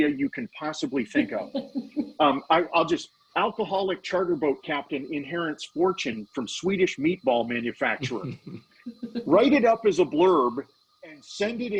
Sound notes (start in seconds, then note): 1.0 laughing; 8.3 laughing